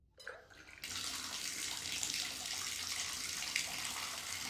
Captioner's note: water running